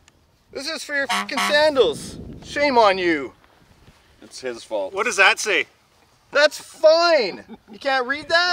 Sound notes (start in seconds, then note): 1.0 honk